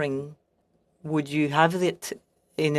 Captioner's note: speaking French